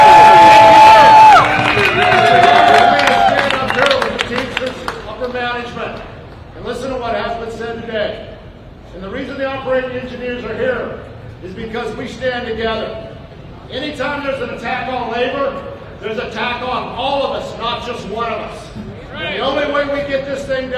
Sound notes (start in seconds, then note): 6.0 cheers and applause